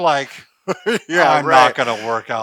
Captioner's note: laughs